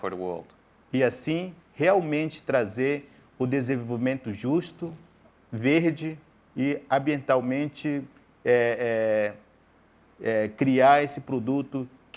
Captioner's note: speaking in portuguese